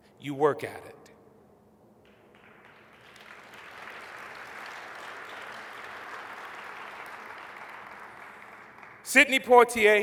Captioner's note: applause